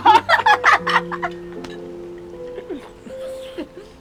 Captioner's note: singing in Bisaya; both laughing